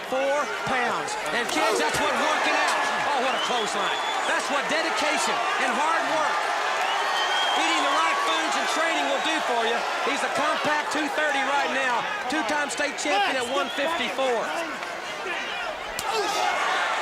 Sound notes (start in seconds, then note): 13.5 crowd cheering